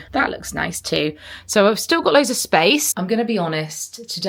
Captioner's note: none